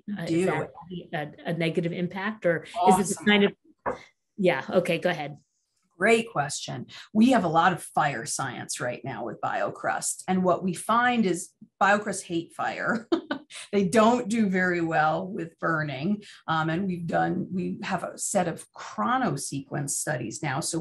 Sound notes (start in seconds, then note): 12.9 laughing